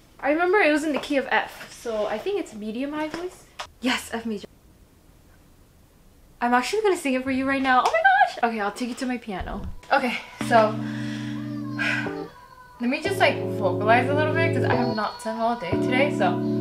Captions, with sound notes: I remember it was in the key of F Major, so I think it's medium-high voice. Yes, F Major! I'm actually going to sing it for you right now. *sings*oh my gosh Okay, I'll take you to my piano. Okay, so *exhales* Let me just vocalize for a little bit because I haven't sung all day today.